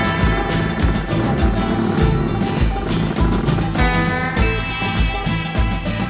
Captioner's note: squeaks